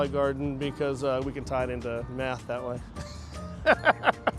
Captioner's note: laughs